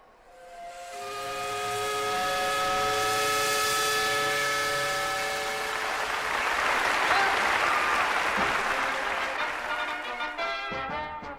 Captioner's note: steam whistle